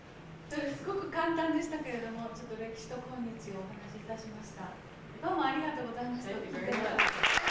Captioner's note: speaking Japanes